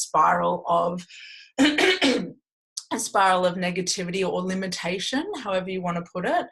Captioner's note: clears throat